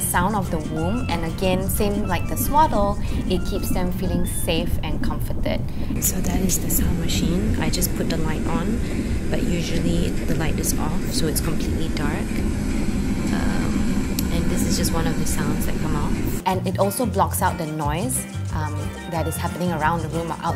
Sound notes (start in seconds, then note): 6.7 white noise